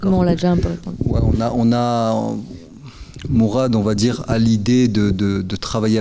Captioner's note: speaking in French